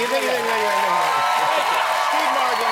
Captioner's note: cheering